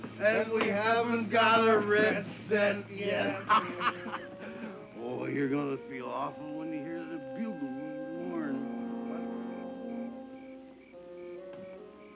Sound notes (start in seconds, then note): 4.8 laughs; 9.5 tense music